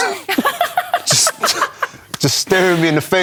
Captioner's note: laughter